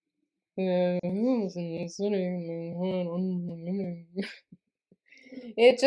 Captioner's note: weird Muppet!Darcy voice